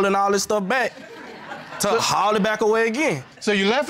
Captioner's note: audience laughing